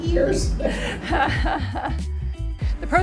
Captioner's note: laughs